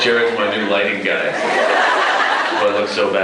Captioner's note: laughs